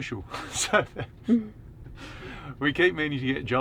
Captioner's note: laughing